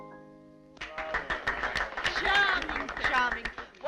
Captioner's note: applauding